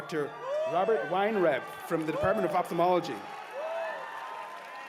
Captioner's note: cheers and applause